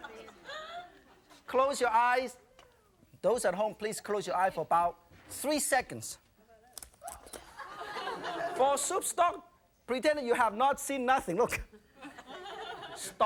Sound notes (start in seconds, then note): 7.4 audience laughing; 12.0 audience laughing